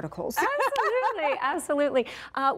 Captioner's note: laughing